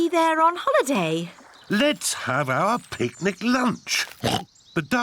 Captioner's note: oinks